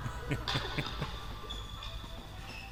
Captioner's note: laughter